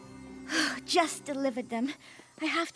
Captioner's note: sighs